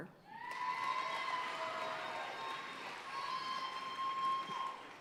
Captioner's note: audience cheering and applauding